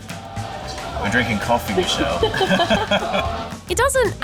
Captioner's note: all chuckle